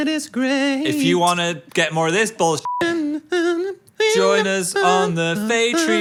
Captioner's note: beep